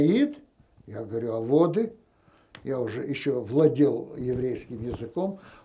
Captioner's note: yiddish